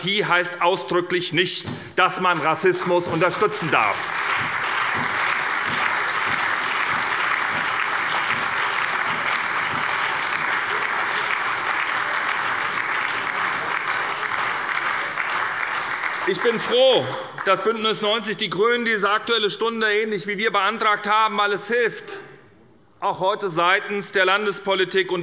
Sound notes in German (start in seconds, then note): 3.9 Allgemeiner Beifall